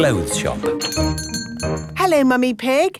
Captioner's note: doorbell chiming